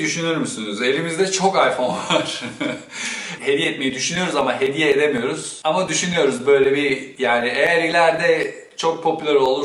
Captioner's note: laughs